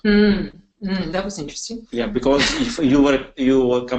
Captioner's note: laughs